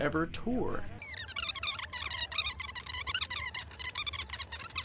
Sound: squeaking

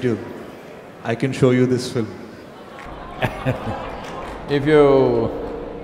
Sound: Sadhguru laughs

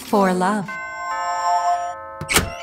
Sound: doorbell

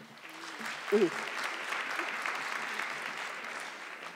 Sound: audience clapping

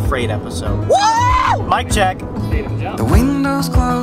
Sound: screams

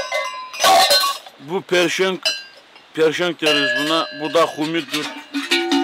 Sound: bell

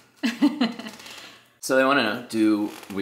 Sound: laughing

